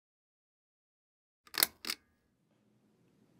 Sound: pull-chain clicks

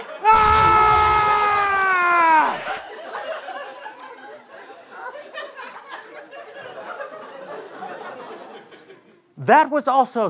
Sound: screaming

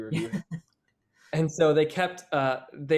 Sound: laughs

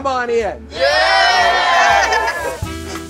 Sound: group cheering; mellow jazz music

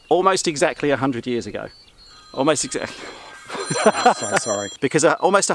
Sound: phone rings

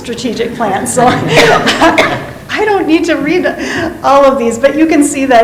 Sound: laughs

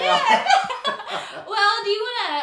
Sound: both laughing

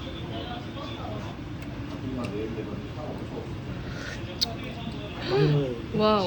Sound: tasting

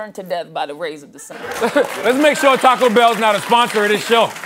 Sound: applause

